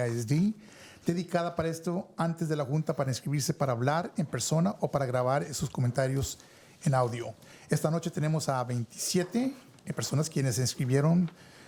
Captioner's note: speaking in spanish